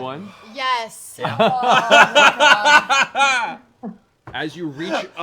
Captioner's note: laughter